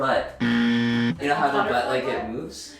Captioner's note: buzzer buzzing